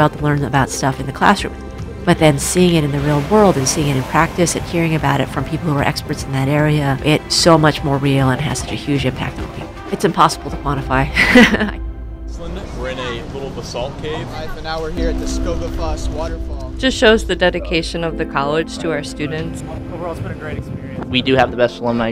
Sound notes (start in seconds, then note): 11.1 laughs